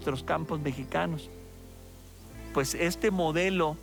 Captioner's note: crops rustling